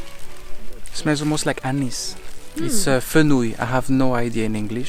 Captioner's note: french